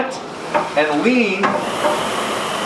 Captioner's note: SkiErg whirring